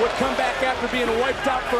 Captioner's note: crowd cheers